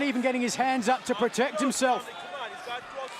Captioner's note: crowd cheering